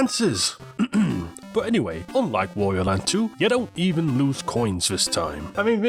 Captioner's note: ahem